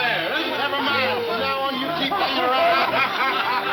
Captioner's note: laughing